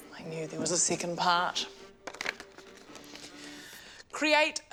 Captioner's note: none